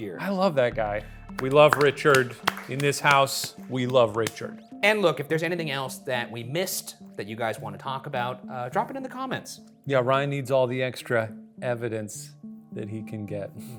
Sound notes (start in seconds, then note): 1.3 hands clapping